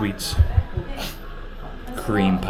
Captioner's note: snickering